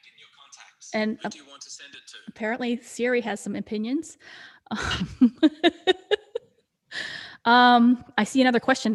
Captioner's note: laughs